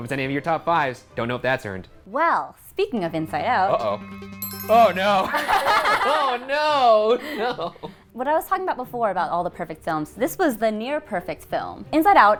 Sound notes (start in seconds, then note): 4.3 bell chimes; 5.1 all laughing